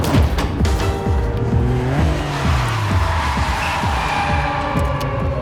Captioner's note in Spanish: Chirrido de llantas